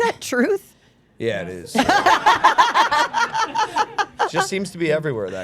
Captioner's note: group laughing